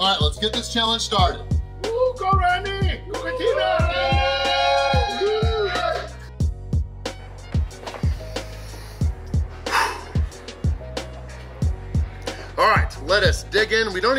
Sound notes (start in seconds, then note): 3.1 cheering